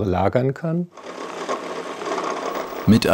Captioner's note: rattling